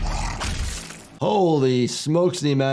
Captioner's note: monster growls